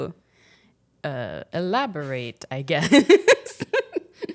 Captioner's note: chuckles